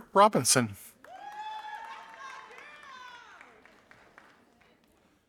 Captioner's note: audience applauding